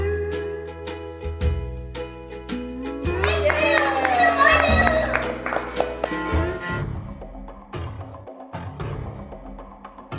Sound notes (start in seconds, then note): 3.0 applause and cheers; 7.3 intense music